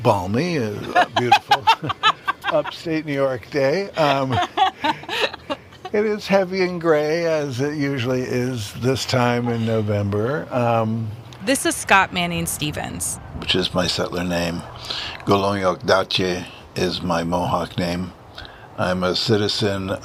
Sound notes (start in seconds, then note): 9.1 laughs; 15.6 speaks in Mohawk